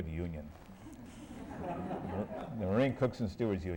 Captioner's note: laughter